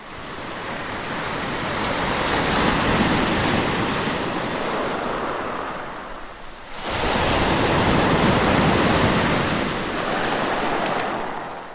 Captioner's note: шум волн